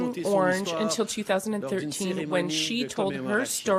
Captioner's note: speaking French